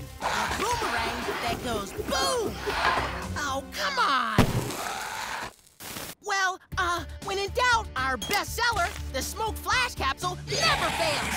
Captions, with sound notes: The Boom-erang that goes boom! -Oh, come on! -[roars] Well, uh, when in doubt, our bestseller, the Smoke Flash Capsule, never fails!